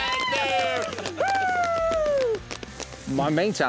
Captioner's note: cheering, applause